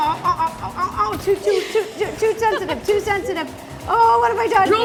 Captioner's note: frantically